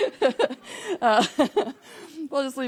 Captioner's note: laughing